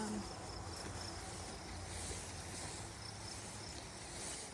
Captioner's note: grass rustling